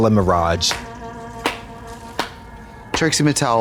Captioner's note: Trixie claps